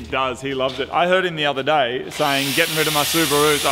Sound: starts drill

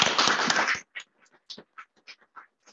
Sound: applause

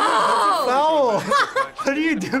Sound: laughing

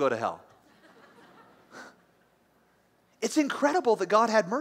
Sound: light laughter

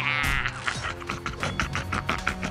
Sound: monster Noises

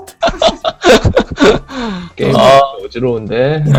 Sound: laughter

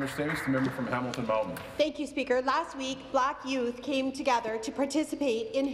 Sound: some Applause

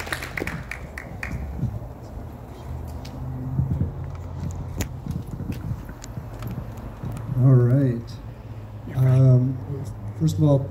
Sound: applause

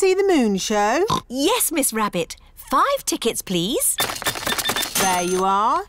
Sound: oinks

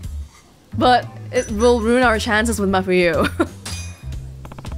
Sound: chuckles

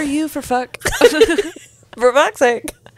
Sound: panel laughing

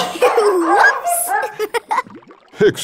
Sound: laughing

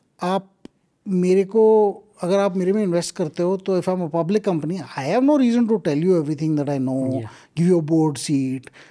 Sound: speaks Hindi

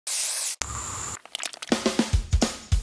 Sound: fire blazing; whip cream spraying; honey dripping; drums beating

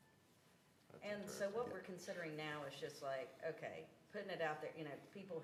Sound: none

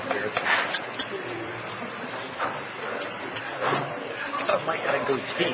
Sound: people chattering quietly

